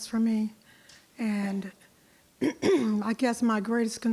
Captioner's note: clears throat